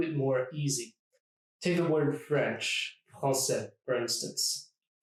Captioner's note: français